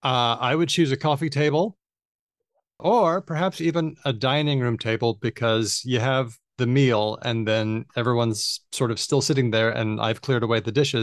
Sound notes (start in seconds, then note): none